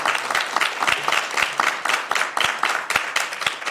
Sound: applause

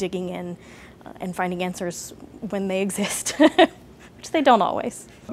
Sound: laughs

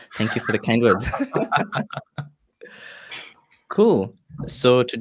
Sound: all laugh

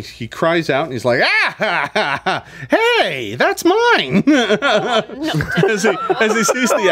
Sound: laughs

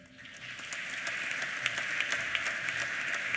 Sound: applause

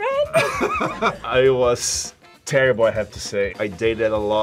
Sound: laughs

